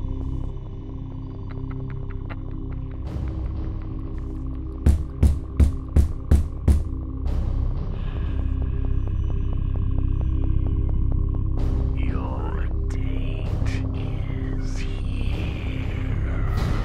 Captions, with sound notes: -(Snickering)- (loud knocks) -Your date is heeeeeeere-